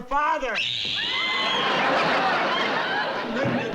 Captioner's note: screaming